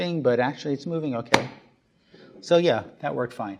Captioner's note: jar lid popping